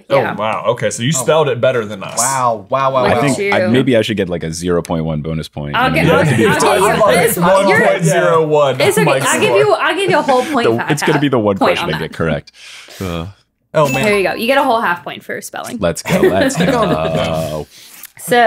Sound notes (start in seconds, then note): 12.5 sighing; 17.2 paper crinkling; 18.2 letters shuffling